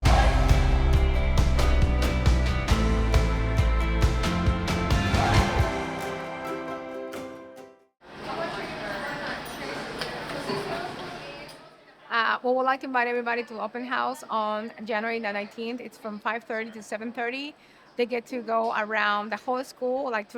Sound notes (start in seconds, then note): 0.0 upbeat music; 8.1 general chatter